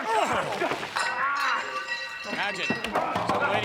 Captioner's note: dishes clanking